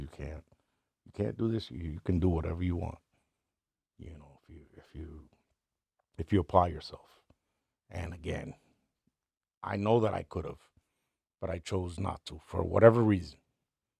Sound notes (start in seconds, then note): none